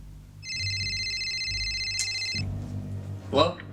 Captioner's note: phone rings